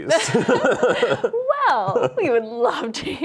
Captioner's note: both laugh